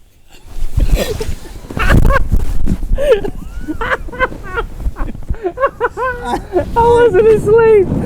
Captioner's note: sheets rustling; Link inhales; both laughing